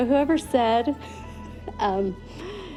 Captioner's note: laughs